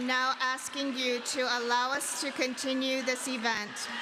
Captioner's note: chanting continues